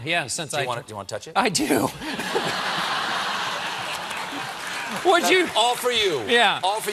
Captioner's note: laughter